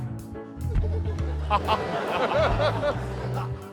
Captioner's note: western-movie music; laughter